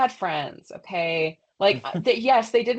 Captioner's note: laughs